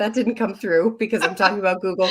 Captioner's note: chuckles